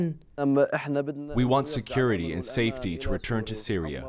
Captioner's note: through translator